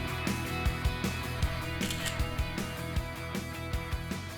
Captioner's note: camera snapping